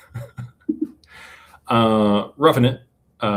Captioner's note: laughter